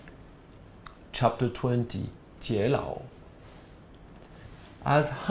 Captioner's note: non-english speech